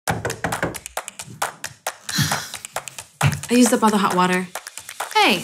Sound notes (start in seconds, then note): 0.0 upbeat music; 0.1 fist knocking; 2.1 sighs